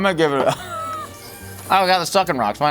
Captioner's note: laughing